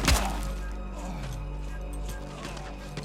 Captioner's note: grunts